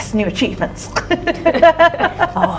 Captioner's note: laughing